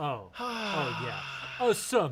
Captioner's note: sighs